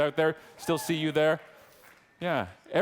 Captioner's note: audience clapping